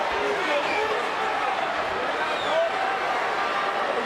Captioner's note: all chattering